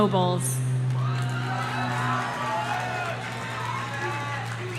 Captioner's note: audience cheering